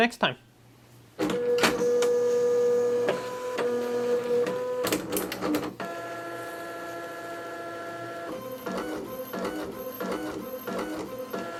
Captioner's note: printer Noises